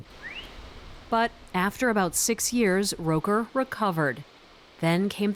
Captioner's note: voice-over